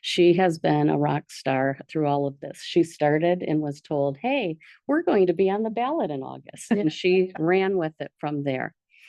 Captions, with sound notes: She has been a rock star through all of this. She started and was told, "Hey, we're going to be on the ballot in August," (board member laughs) And she ran with it from there.